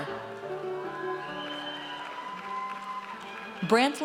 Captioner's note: audience cheers